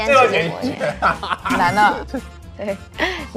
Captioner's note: laughing hard